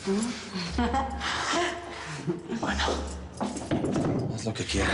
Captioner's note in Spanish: Ríe